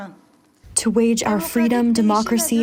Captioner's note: through translator